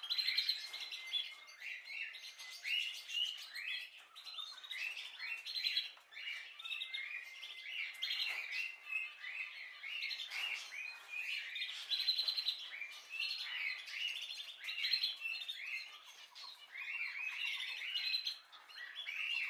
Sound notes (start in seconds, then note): 0.1 birds singing